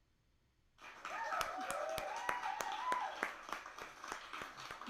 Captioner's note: applause and cheers